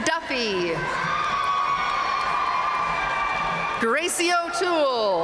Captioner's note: audience cheering and applauding